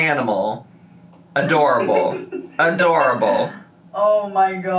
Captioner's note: laughing